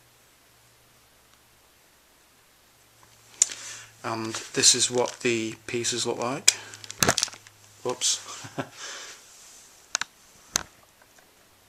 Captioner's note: laughs